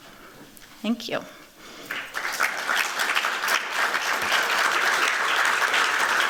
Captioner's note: applause